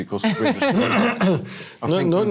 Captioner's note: laughs